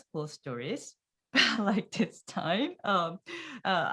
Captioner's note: laughs